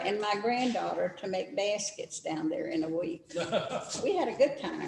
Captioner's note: laughter